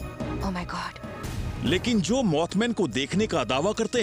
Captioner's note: narrating